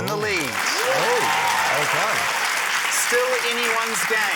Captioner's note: cheering, applause